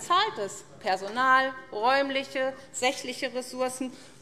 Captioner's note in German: none